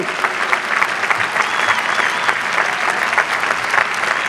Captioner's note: audience applauding